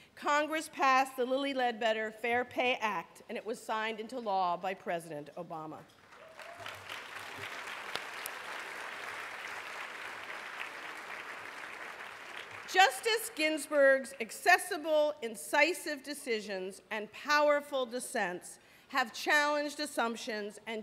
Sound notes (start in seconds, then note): 8.1 applause